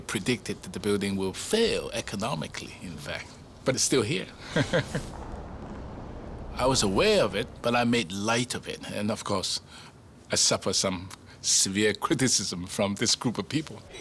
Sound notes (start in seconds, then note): 4.4 chuckles